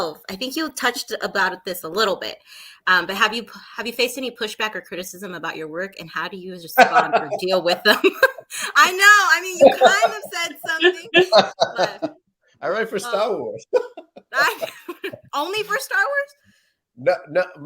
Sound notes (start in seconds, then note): 6.7 laughs